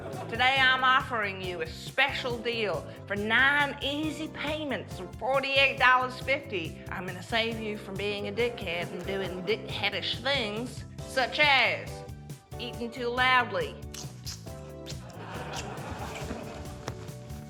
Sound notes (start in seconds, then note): 13.8 slurps